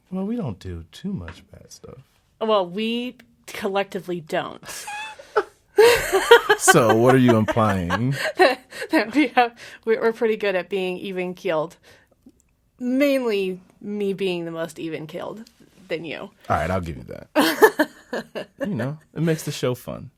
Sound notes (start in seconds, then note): 5.8 laughs; 9.2 laughing